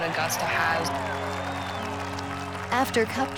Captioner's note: crowd cheers